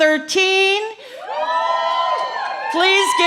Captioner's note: cheering